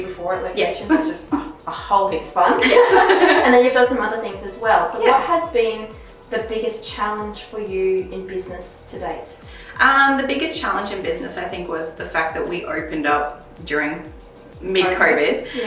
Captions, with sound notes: before at LOCATIONS. A whole heap of fun (both laughs) And then you've done some other things as well. So what has been the biggest challenge for you in business to date? - Um, the biggest challenge in business, I think was the fact that we opened up during mid COVID.